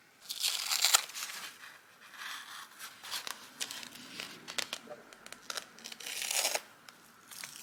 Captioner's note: masking tape unsticks and paper crackles